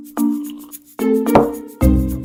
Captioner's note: slurp